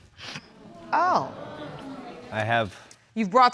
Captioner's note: audience groans